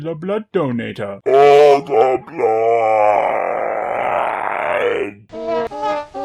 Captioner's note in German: guttural; Wah-Wah-Musik